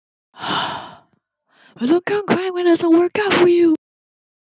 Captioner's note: sigh